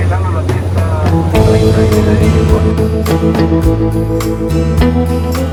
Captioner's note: air traffic control speaking Spanish